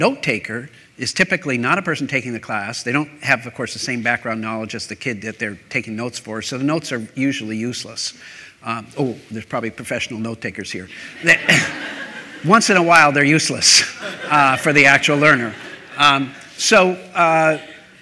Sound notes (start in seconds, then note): 11.0 laughter